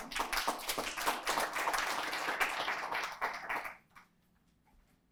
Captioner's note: applause